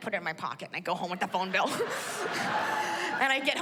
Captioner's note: laughs